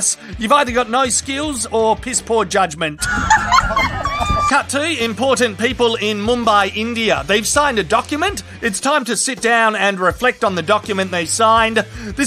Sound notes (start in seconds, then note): 3.0 laughing